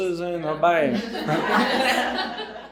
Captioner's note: audience laughing